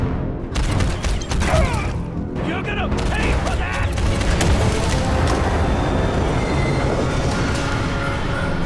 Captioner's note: gun booming